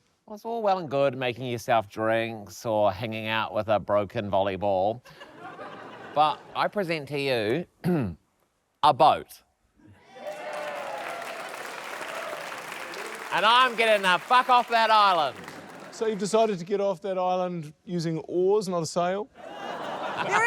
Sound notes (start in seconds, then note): 7.8 clears throat; 10.0 cheers, applause